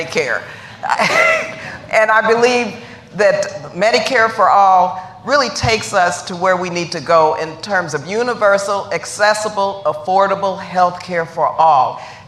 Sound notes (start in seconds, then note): 2.6 laughter